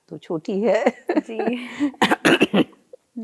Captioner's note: they laugh